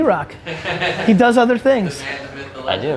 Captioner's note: group laughter